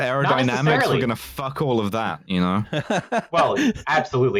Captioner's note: laughs